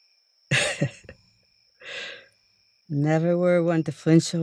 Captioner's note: laugh